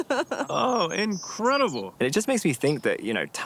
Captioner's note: laughter